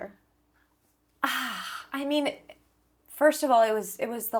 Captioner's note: sighs